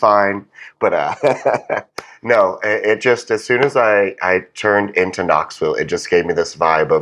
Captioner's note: laugh